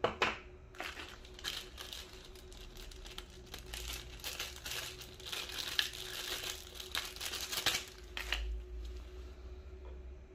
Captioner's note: plastic sound